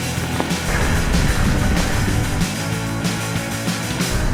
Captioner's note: wheels crunching